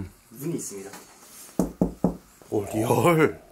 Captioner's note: knocking the wall